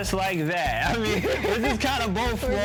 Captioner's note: both laugh